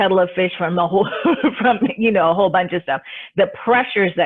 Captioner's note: laughs